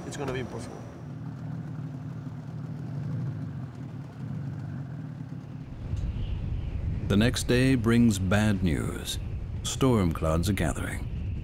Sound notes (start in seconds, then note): 5.8 wind whistling